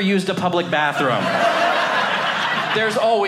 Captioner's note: audience laughing